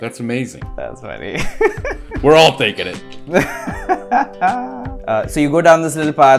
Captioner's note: laughs